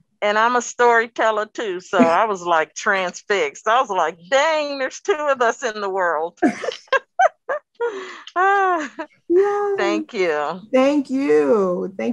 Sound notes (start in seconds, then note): 6.4 laughing